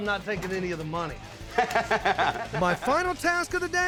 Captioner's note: chuckling